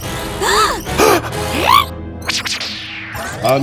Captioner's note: gasps